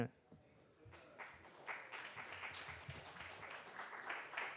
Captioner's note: applause